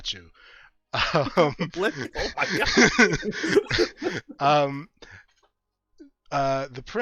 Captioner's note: chuckles